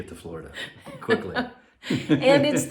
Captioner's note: both laughing